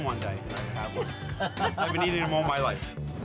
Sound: laughing

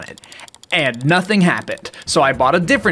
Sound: incessant clicking

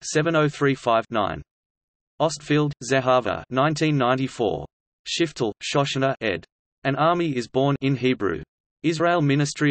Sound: in Hebrew

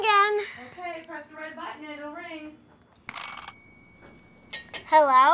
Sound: yells from kitchen

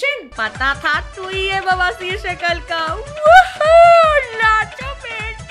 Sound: mimics

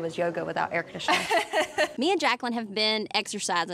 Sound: chuckling

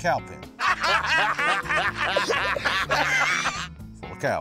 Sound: laughter

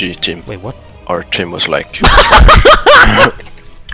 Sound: laughter

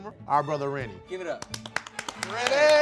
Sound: guys applaud

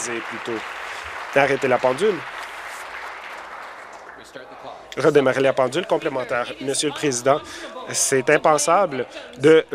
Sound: applause

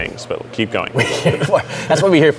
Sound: laughing

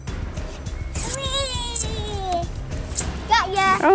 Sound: squeals

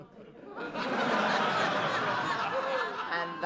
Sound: laughter

